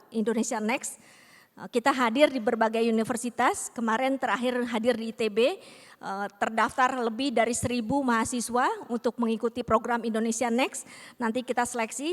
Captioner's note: non-english speech